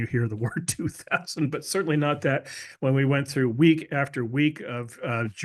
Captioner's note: laugh